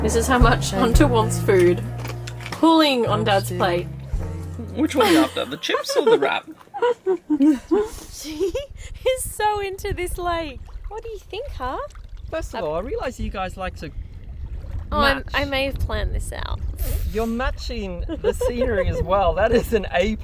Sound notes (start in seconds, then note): 4.8 laughing; 18.0 giggling